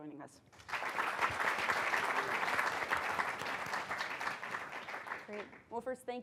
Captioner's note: applause